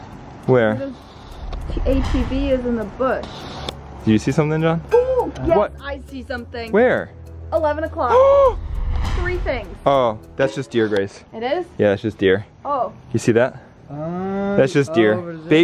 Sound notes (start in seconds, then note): 8.6 gasps